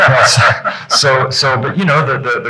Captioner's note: laughing